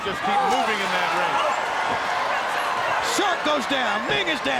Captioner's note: crowd screaming